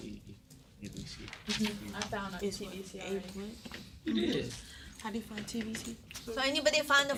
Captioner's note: students murmur